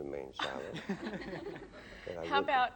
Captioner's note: laughter